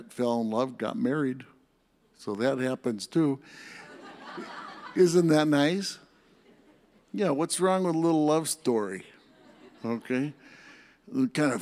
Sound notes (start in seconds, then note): 3.7 audience laughs